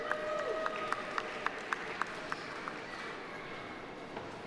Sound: audience applauding

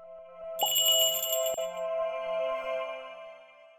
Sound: twinkling

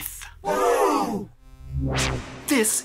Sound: woosh

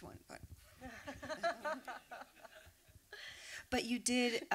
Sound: laughter

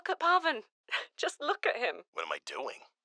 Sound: laughs

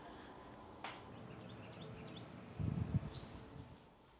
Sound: birds chirping

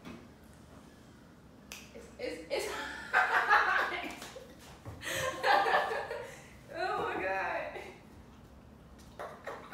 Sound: snap; laugh

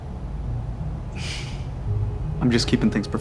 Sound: sighs

